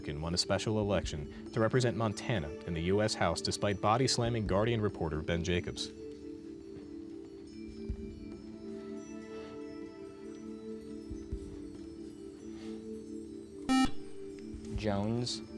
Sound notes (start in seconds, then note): 13.7 buzzer